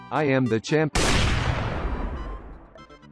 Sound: sniper shot

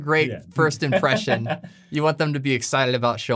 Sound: laughing

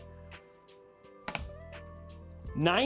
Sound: click

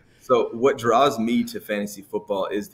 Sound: laughs

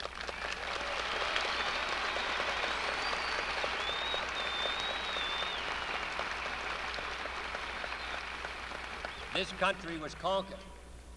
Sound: applause

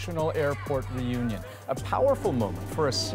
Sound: cheers and Applause

